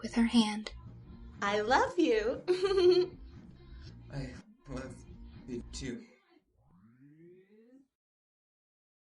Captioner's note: giggle; sobbing